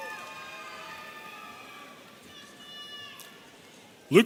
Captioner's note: audience cheering